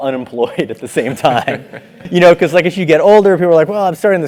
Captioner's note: laugh